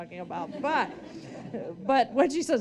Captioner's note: audience laughing